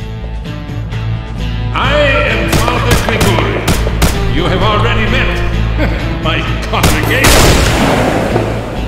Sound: chuckles

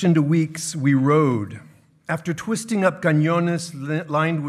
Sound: speaking in foreign language

